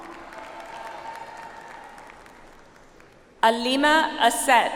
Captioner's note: audience applauds